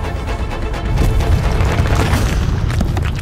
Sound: creaking sound

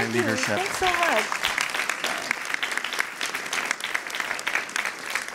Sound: applause

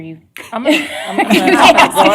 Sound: laughter

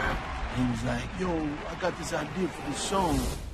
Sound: fans cheering

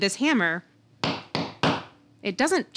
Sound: hammering object

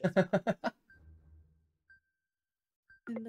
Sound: laughs

